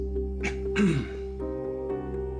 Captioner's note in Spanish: Carraspea